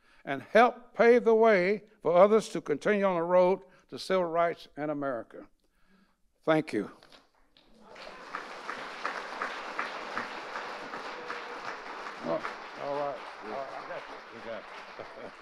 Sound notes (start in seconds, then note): 7.6 audience applauding; 12.7 chuckles; 13.0 audience applauding; 13.7 chuckles; 14.5 audience applauding